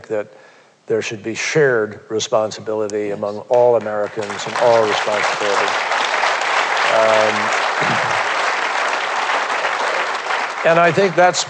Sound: applause

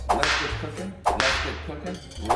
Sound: whip cracking

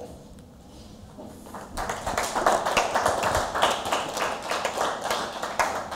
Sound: applause

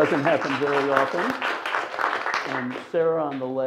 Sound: audience applauds

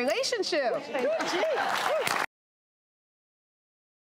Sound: applause

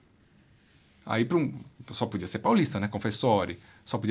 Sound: italian accent

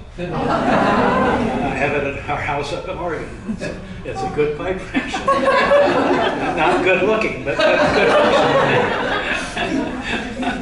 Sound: laughter

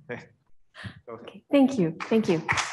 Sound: applause

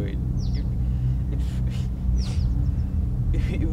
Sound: cries

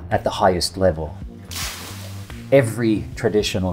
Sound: steam hisses

